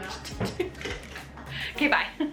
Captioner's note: laughing